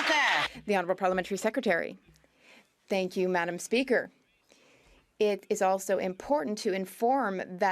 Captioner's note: some Applause